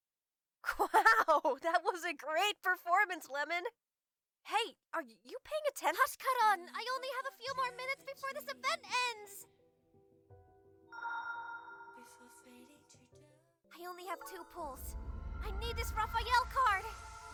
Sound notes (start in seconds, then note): 11.0 magical sound effect; 17.1 magical sound effects